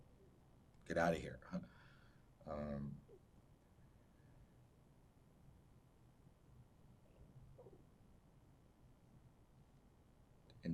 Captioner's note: pauses 8 seconds